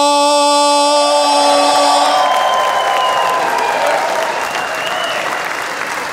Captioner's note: audience cheering and applauding